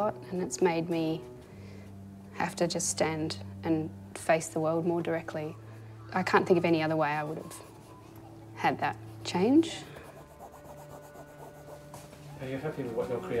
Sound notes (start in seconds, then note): 10.7 brush Scratching